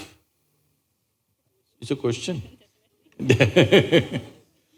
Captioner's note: laughs